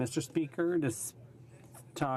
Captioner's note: speaking French